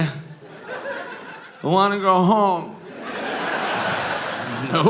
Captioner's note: audience laughing